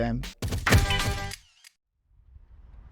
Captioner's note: camera shutters clicking